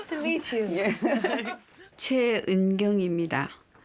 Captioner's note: speaking Korean